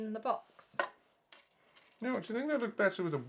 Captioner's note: rattling